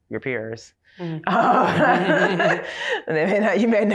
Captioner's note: laughter